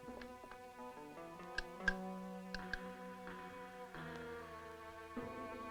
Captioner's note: switch clicks